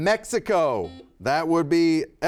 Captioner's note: buzzer beeping